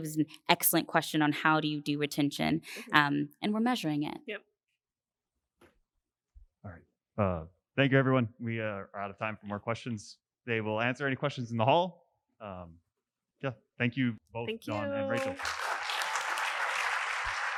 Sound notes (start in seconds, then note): 14.7 applause